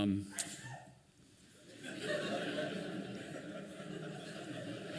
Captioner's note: laughing